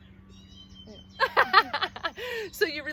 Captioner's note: laughing